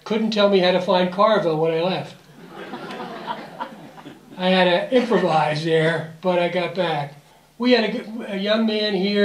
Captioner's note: audience Laughter